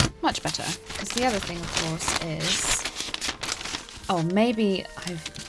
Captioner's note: pencil noise, scissors snip; more rustling